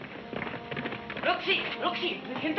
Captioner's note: hooves thudding